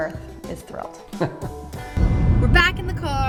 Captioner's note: laughs